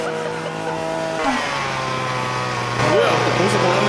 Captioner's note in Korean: 예초기 소리가 심상치 않음